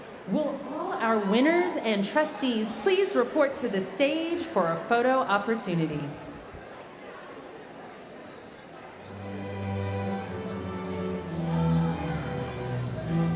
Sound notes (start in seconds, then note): 0.0 audience chattering; 6.1 audience chattering; 9.1 bright lively music